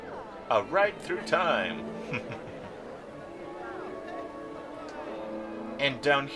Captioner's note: chuckle